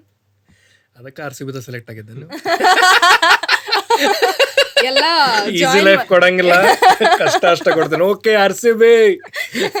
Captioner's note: both laugh